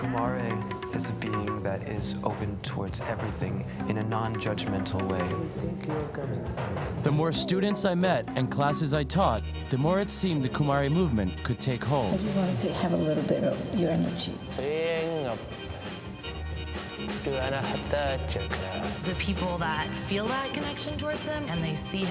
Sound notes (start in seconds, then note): 13.6 说外语; 15.0 speaks Foreign Language; 17.3 speaking Foreign Language